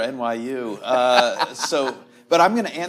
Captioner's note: laughs